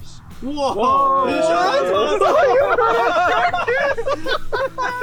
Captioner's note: hikers laughing